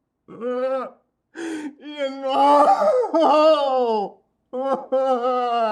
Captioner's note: sobbing